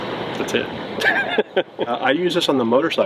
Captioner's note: laughs